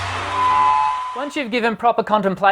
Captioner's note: audience screaming